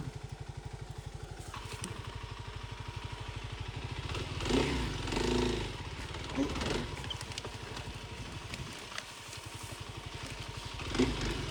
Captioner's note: motor rumbling